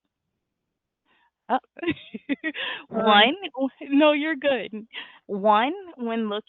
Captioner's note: laughs